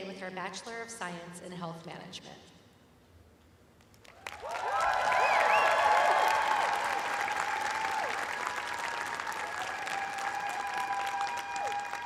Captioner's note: cheers and applause